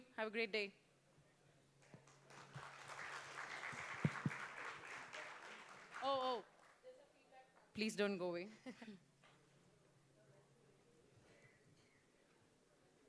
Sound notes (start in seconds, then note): 1.8 applause